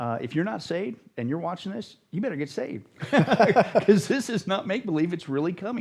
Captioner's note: laughter